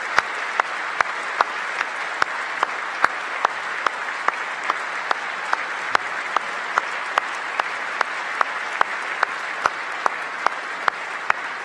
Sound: applause

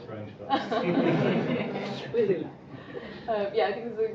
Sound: laughing

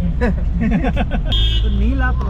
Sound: laughing

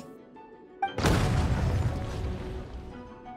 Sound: bang

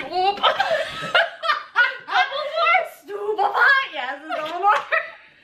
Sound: both start cracking up

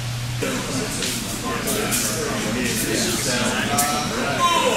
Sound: quiet chatter

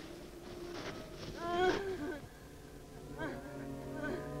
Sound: woman sobbing

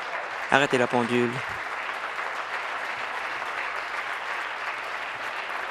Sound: applause

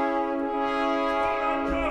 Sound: speaking in Italian continues

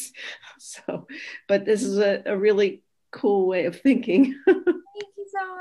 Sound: laughs

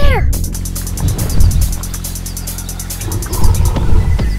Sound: loud stomping

